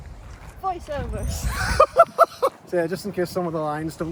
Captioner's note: laughs